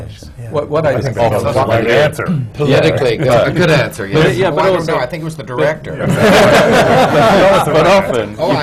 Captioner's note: laughter